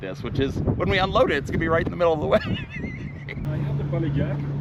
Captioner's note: laughs